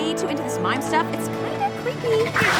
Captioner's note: crowd laughing